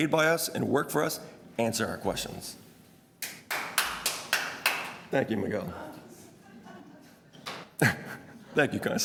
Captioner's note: clapping